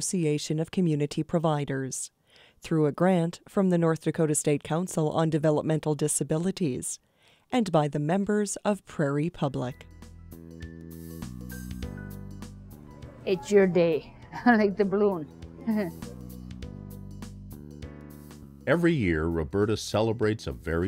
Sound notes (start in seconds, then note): 15.6 laughs